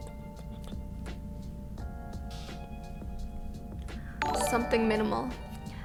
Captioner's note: mouth clicking; notification tingling